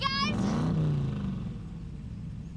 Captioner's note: loud engine acceleration